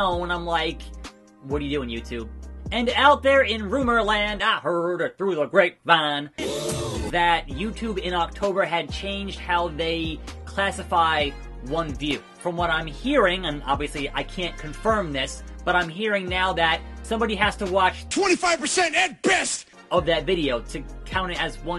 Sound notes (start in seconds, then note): 6.4 ooohhh